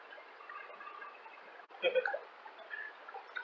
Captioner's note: laughing